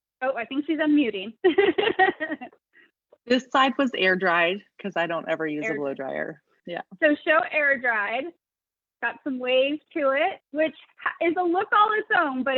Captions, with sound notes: Oh, I think she's unmuting. (laughs) - This side was air dried, cause I don't ever use a blow dryer. - So, show air dried. Got some waves to it, which is a look on its own,